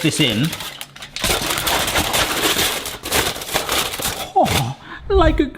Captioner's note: foil crinkles loudly